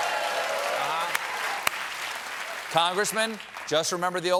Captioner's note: applause